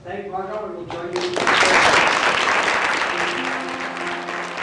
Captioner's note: applause